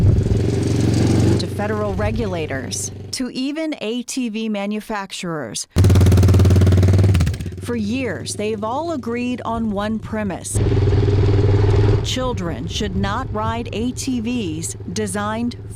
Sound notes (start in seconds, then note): 0.0 engines revving; 4.6 engine revving